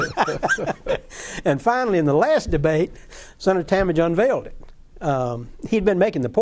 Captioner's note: laughter